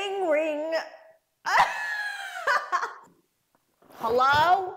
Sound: laughing

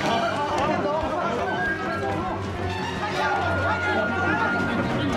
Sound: speaking foreign language; congregation chattering

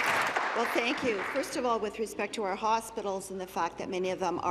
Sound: applause

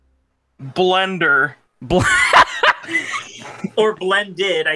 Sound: laughs

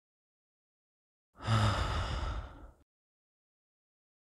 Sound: sighs

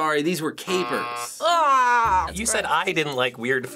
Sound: buzzer; groans in disgust

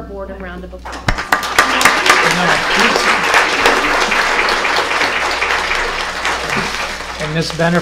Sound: applause

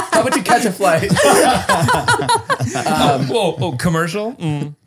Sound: they all laugh

